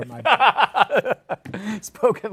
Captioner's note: laughs